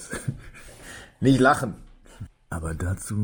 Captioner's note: laughs